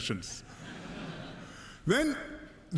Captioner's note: laughter